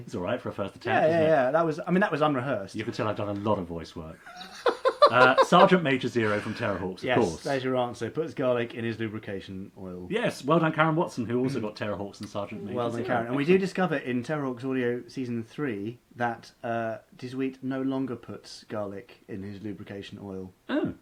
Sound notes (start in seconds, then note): 4.2 laughing